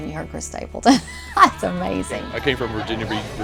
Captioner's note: laugh